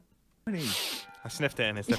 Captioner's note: sniffs